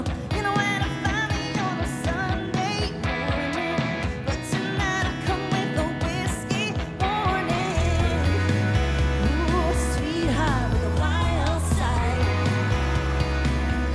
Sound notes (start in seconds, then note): 8.2 ooh